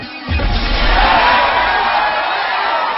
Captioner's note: crowd cheering loudly